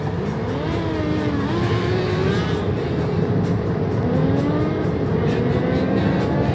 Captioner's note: motor approaching